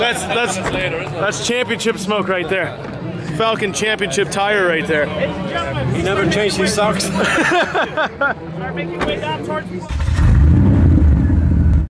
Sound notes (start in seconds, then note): 7.1 laughing; 9.9 engine revving